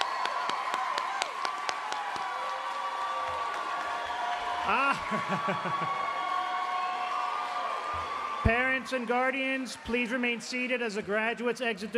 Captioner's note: cheeringnd alause